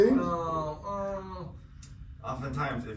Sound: groaning

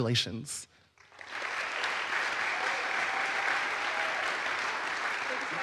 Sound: audience applauds

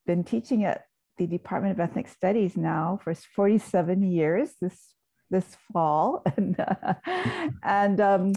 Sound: laughs

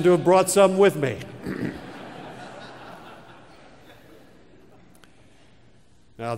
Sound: laugh

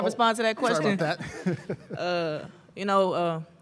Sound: laughs

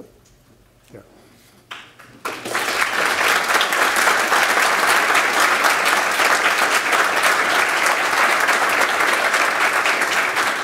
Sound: applause

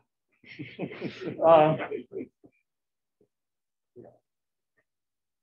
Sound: laughter

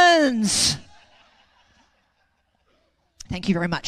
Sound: audience laugh

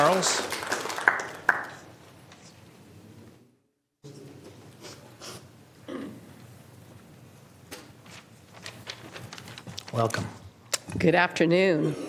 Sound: applause

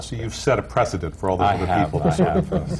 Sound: laughter

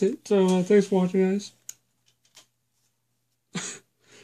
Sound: laughs

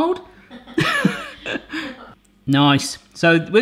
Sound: laughing

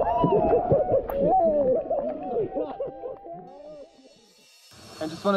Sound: muffled laughter

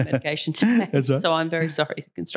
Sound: chuckles

